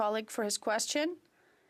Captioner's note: speaking French